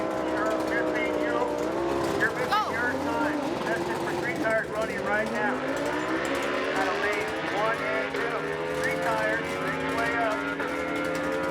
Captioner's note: car horn honking